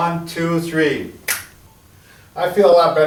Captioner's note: fingers snap